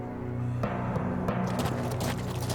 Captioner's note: horses trotting